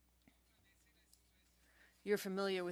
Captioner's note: speaking French